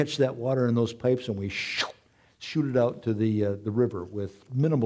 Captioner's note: whooshing noise